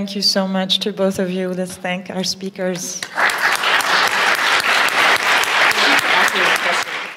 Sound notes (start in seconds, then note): 3.0 applause